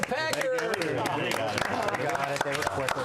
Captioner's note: applause